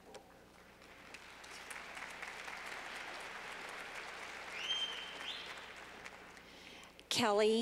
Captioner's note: clapping